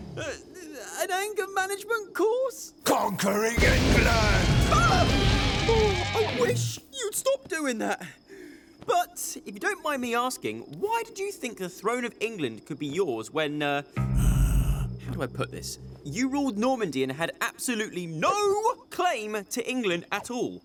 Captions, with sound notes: - An anger management course? - Conquering England! - Ooh, I wish you'd stop doing that. But if you don't mind me asking, why did you think the throne of England could be yours, when uh... (growling) How do I put this? You ruled Normandy and had absolutely no claim to England at all?